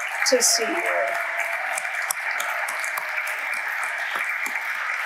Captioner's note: audience applauding